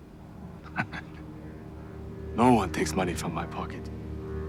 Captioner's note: laughing